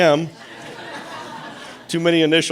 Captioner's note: audience laughing